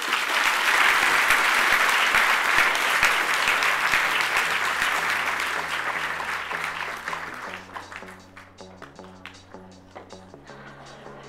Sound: applause

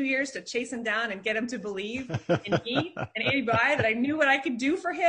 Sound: laughing drowns out speaker

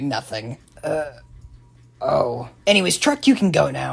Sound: says sadly

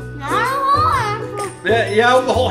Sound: mumbles through Froot Loops

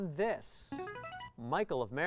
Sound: player buzzer

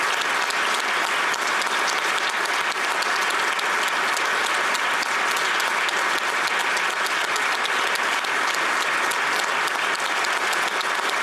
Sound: applause

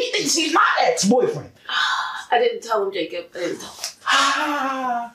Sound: exhale

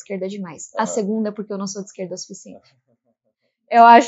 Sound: laughs

